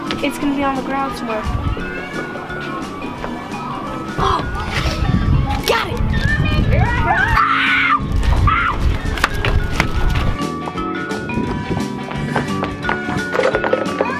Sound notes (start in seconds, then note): 6.8 screaming; 8.8 upbeat music